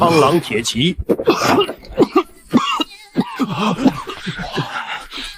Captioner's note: cough cough cough cough cough